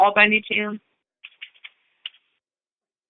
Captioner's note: silence